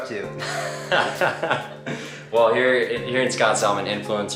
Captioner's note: laughs